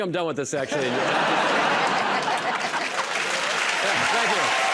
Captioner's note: laughter and applause